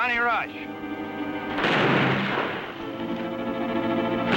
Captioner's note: gunfire